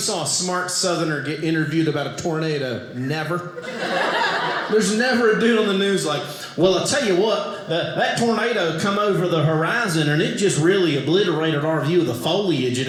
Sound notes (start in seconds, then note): 3.5 audience laughing